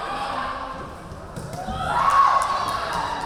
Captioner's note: yelling